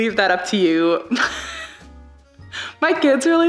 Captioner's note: laughs